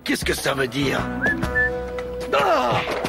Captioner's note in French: sifflement